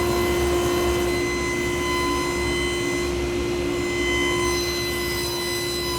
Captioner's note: driller whirring continues